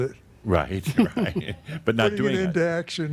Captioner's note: Adamus chuckles